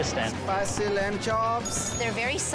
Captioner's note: bell dings